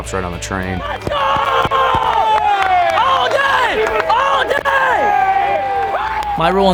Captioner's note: cheering